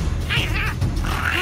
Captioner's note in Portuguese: Moaning